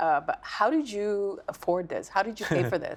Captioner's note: laughing